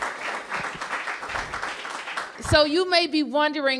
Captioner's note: applause